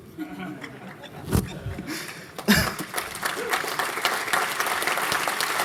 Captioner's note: applause